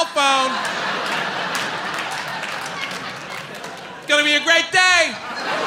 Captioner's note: audience laughs